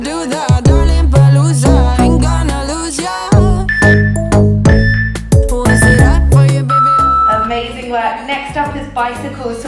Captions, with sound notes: (workout timer beeping) Amazing work. Next up is bicycles.